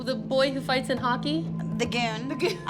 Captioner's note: laughing